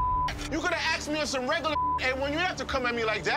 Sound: beep

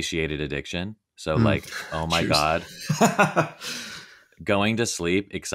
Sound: laughing

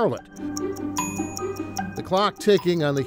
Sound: clock ticking

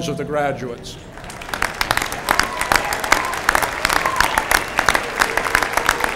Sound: applause

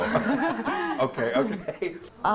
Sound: group laughs

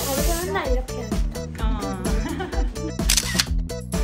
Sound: laughs

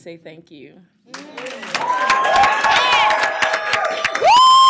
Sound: applause, cheering

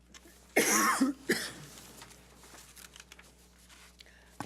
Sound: coughs

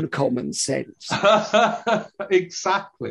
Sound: laughs

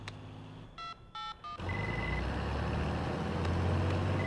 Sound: phone rings

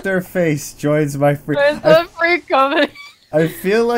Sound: laughing

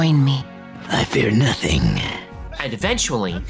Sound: deepens voice

